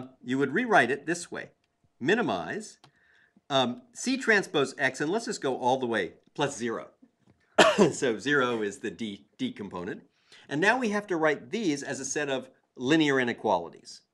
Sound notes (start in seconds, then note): 7.5 cough